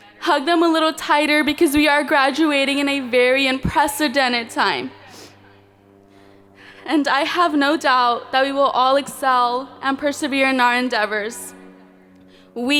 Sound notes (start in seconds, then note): none